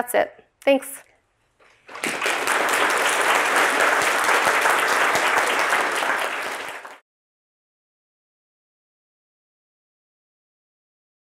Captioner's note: applause